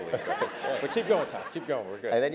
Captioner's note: laugh